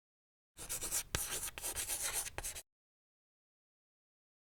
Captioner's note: chalk scratching